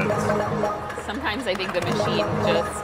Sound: balls beeping; button thudding

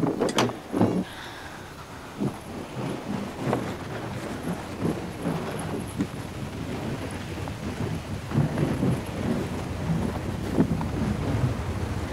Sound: howling wind

